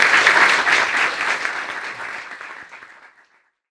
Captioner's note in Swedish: Applåder